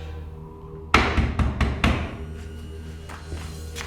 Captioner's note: knocking